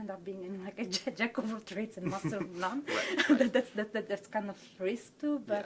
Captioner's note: chuckles